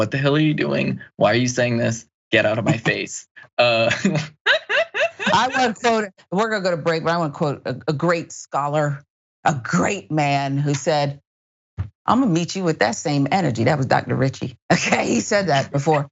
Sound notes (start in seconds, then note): 3.4 laugh